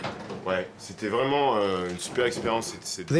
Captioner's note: speaking French